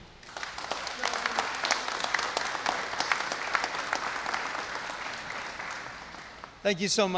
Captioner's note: applause